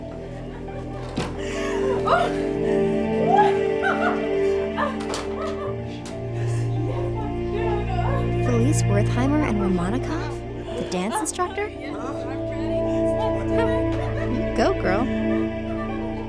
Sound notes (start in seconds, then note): 1.5 door clicks; 1.6 woman laughing; 6.7 gentle music; 11.4 laughs